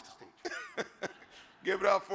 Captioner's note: audience laughs